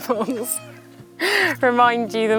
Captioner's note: cockerels